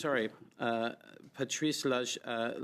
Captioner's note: speaking French